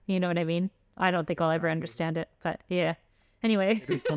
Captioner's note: laughter